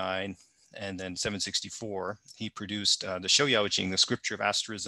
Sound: speaking in Mandarin

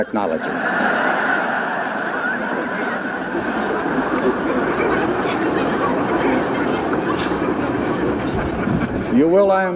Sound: laughter and chatter

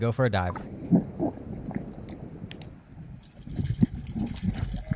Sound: water sloshing

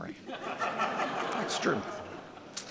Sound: audience laughing

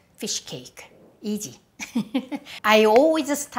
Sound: laughs

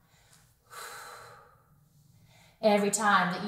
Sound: exhales

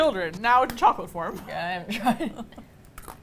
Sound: laughing

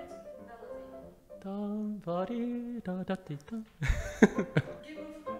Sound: laughs

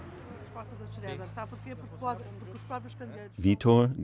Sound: Italian spoken audio

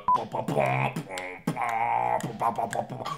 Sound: beat boxing

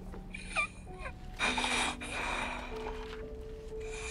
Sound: Jay snoring

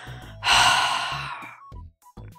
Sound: sigh

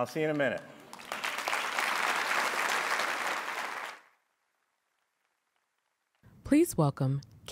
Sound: applause

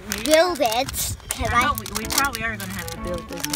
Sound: voiceover

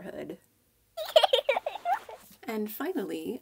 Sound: small child giggle

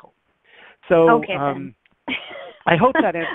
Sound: laughs

